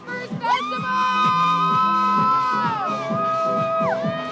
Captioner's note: both cheering